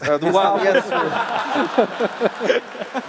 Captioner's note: laughter